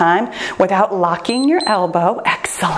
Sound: timer beeps

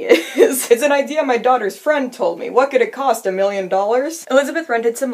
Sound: Lucille Bluth voice

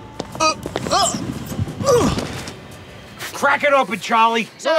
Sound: grunts

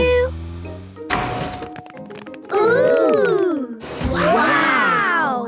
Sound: door dings open

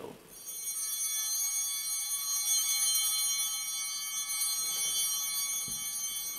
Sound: bell ringing

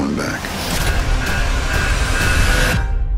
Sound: alarm blaring

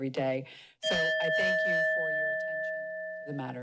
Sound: timer dings

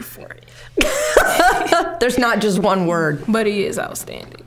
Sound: laughing

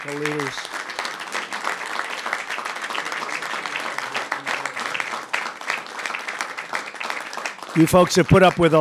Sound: applause

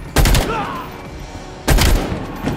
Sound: gunshots

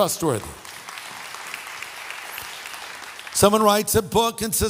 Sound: audience applauding

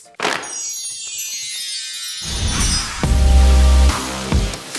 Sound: windchimes; upbeat music

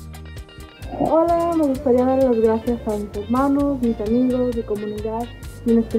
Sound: speaks in foreign language

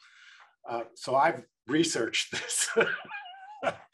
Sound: laughs

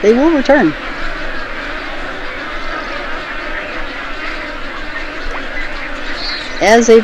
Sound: wading bird colony noises

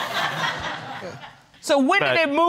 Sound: crowd laughing

